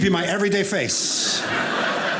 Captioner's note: audience laughing